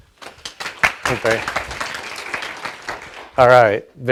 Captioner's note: audience applauds